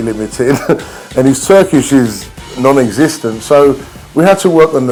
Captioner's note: laughs